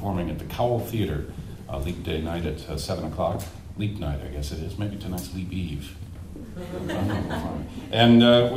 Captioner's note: audience laughs